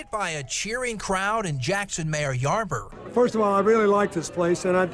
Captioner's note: cheers